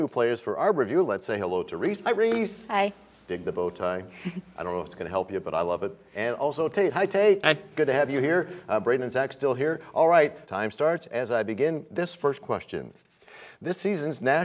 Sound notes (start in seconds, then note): none